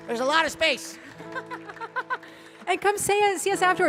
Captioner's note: laughing